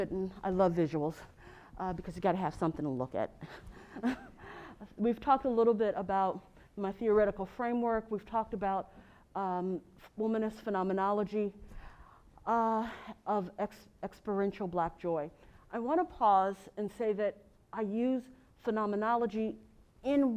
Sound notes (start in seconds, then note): 3.9 laugh